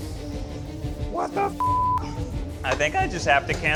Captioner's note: suspenseful music; beep